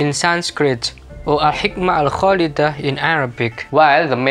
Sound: in Arabic

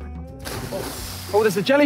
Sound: waters splashing

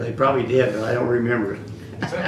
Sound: laughter

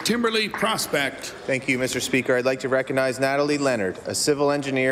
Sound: applause

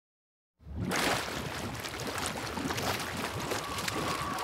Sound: water burbling

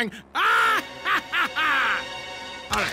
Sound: laughs

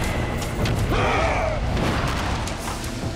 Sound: screaming

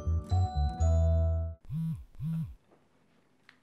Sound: Rose's cellphone vibrates

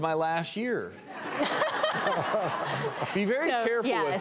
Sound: audience laughing

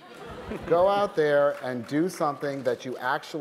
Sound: laughter

